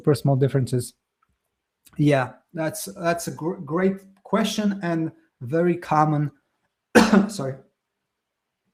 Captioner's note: coughs